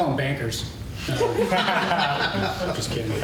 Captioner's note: laughter